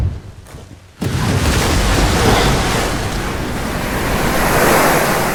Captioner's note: water splashing loudly